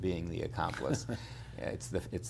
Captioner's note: chuckles